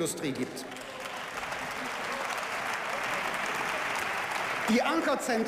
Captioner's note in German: Beifall